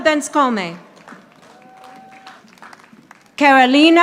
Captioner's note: audience applauding